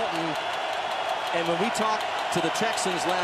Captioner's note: cheering